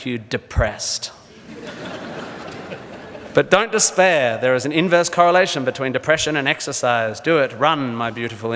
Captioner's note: audience laughs